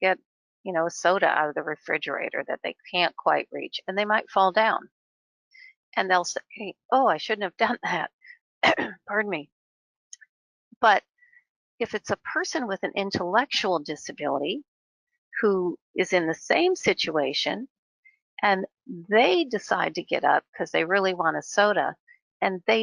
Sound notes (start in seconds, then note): 8.6 cough